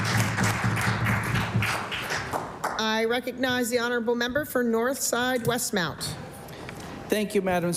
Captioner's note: applause